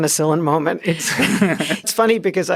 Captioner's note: laughter